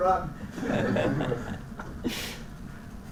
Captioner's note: laugh